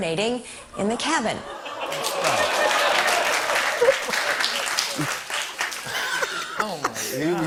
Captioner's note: laughter and applause